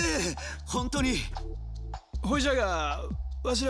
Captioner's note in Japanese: 笑い